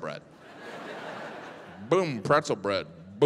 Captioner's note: audience laughs